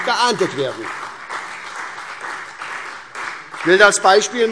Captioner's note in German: Beifall SPD, CDU und Freie Demokraten